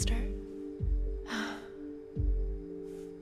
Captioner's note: sighs